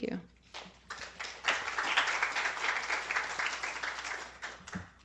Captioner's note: applause